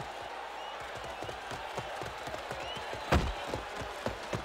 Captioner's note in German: beifall